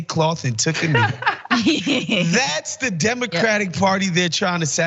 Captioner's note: laugh